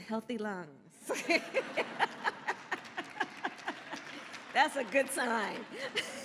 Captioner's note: laughter and applause